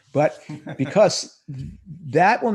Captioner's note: laughs